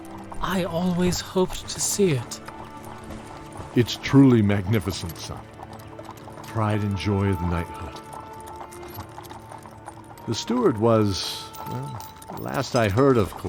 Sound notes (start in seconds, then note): none